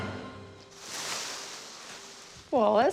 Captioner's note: plastic rustles